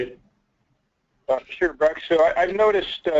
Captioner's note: voiceover